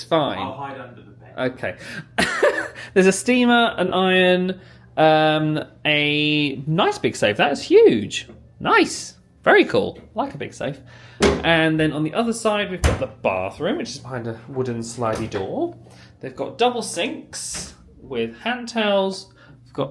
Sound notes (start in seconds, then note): 2.1 laughs